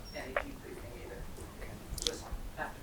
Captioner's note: speaking off mic